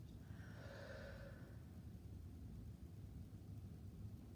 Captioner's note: breathing deeply